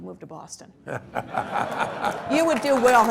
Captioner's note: laughter